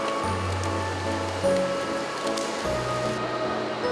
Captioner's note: flatter flapping